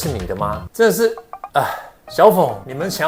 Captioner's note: sigh